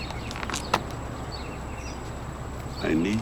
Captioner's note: paper pounding